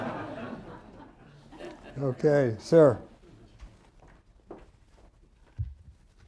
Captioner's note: laughter